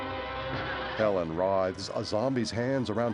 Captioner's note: gasping